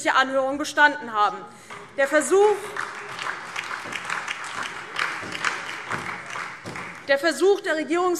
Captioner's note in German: Beifall DIE LINKE, SPD und Freie Demokraten